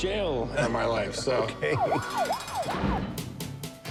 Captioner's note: police siren wailing